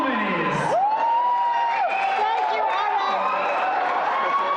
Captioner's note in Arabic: الجمهور يهتف ويصفق بصوت عالٍ